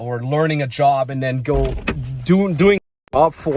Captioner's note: car door clanking